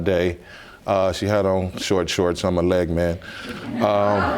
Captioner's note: audience laughs